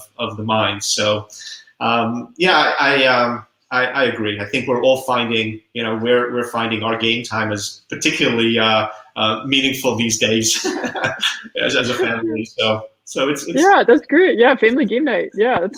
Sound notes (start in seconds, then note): 10.2 laughing